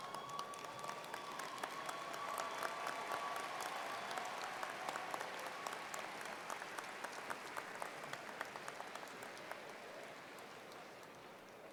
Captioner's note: cheering and Applause